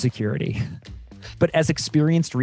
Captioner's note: narrator chuckling